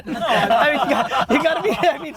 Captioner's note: laughs